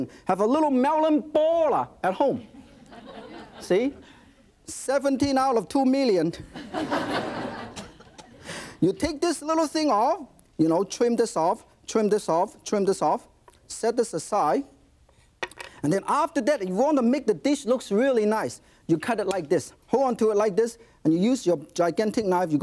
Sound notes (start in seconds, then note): 6.5 audience laughing